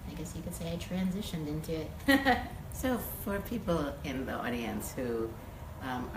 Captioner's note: laughs